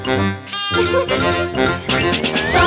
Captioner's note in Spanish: Música Alegre; Risas